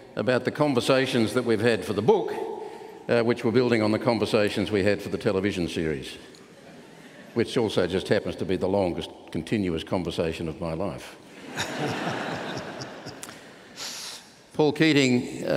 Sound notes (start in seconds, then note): 11.3 laughter